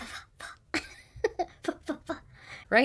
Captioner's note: giggling